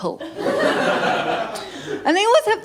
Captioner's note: laughter